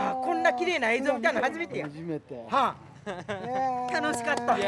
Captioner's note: speaking Japanese